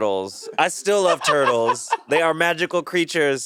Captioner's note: Monét laughing